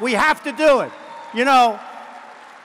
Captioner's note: applause